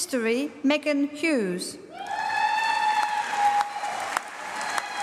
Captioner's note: applause